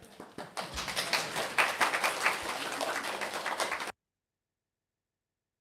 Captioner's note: 拍手